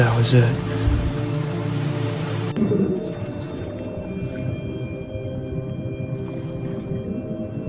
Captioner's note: water rumbling; bright music